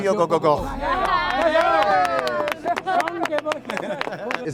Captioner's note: cheering; laughing